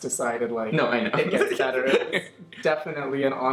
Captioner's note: laughs